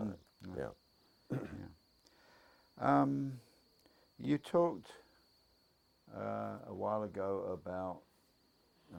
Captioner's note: cough